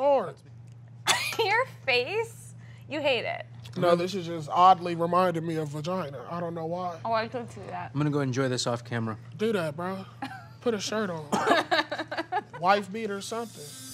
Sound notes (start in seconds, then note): 11.4 laughing